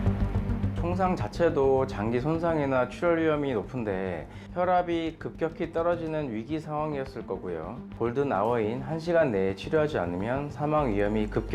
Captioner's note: voiceover